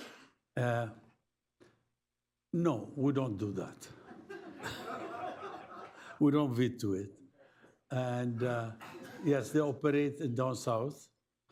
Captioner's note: laughter